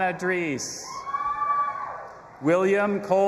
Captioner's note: audience applauding and cheering